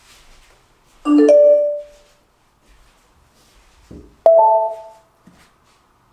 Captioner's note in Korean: 블루투스 자동연결음